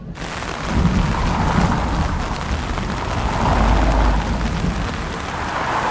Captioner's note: rain pouring down